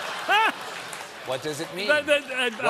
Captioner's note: applause; laughter